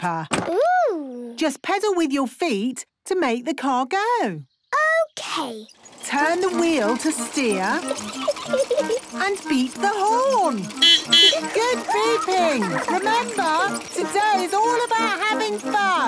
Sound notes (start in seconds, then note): 7.3 giggling; 10.5 beeping; 15.8 beeping; 15.8 laughing